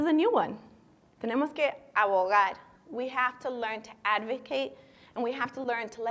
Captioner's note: speaking spanish